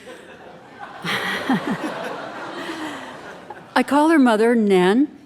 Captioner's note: audience laughing